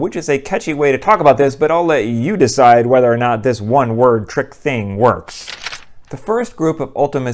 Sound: page turn

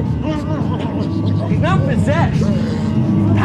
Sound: Shim'on growling

